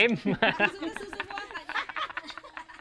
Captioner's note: laughs